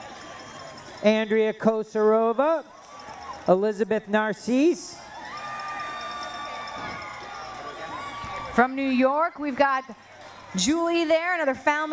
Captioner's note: cheering